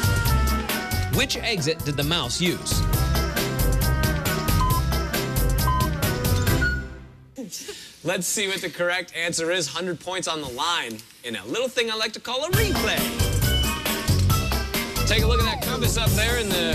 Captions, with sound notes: WHICH EXIT DID THE MOUSE USE? [beep countdown] - LET'S SEE WHAT THE CORRECT ANSWER IS. 100 POINTS ON THE LINE IN THAT LITTLE THING I LIKE TO CALL A REPLAY. TAKE A LOOK AT THAT COMPASS UP THERE IN THE CORNER,